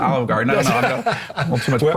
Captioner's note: laughs